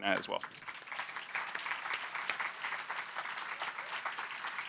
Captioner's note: applause